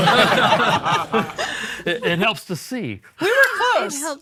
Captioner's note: all laughing